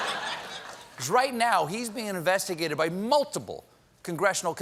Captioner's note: laughter